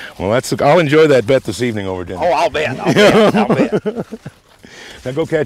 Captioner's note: laughter